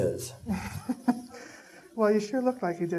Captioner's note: laughing